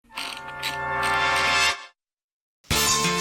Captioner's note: wheel clicks